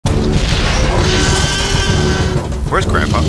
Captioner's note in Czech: dinosauří řev